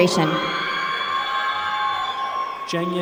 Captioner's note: applause